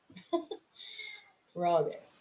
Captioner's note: chuckles